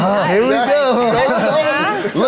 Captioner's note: everyone laughs